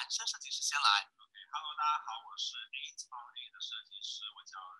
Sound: Mandarin

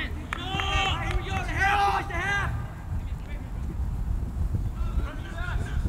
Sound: players talking and yelling

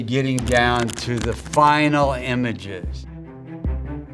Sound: counter ticking; rousing music

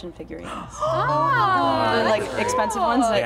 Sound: all exclaiming

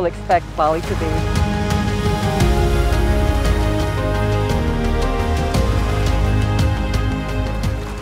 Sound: waves

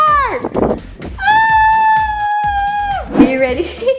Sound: howling

